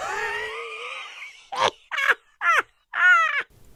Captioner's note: wheezing laughter